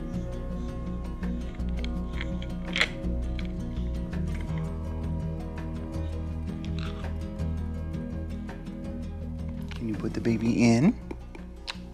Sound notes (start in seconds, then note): 2.1 objects hitting; 4.8 soft instrumental music